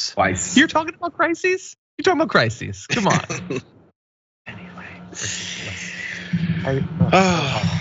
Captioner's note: laugh